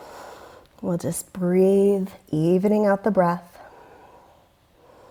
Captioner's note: deep breathing sounds